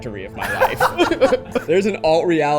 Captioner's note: laughing